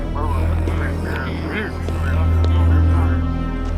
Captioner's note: angry muttering